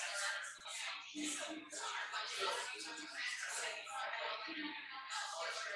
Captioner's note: people chattering indistinctly